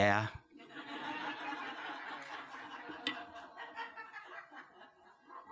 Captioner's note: laughter